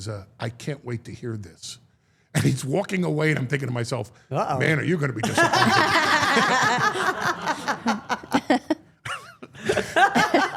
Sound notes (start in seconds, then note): 5.2 all laughing